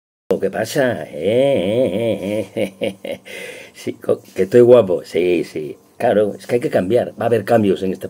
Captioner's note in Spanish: risas